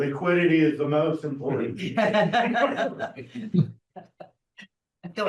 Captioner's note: laughter